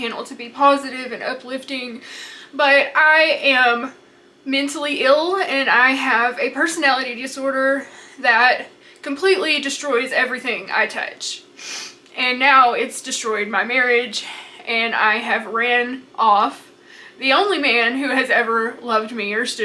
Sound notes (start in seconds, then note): 11.6 sniffs